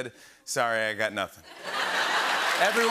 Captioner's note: laughter and applause